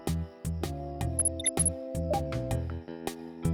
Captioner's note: none